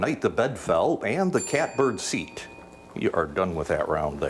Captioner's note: bell dings